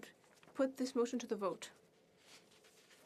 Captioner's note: speaking french